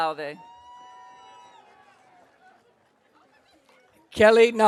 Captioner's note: audience cheering